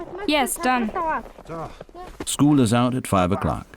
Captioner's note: boy's English Voiceover